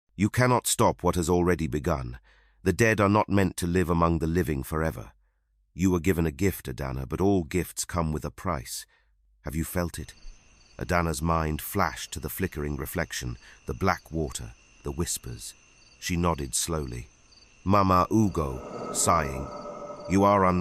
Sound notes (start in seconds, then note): 18.4 sighing